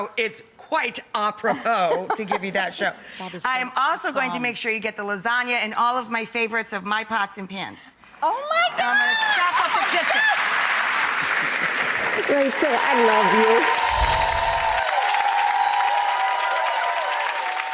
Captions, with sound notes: it's quite apropos to give you that show. That is so awesome. I am also going to make sure you get the lasagna and all of my favorites of my pots and pans. Oh, my gosh. I'm gonna Oh, my go-- stock up the kitchen. Rachael, I love you. (applause)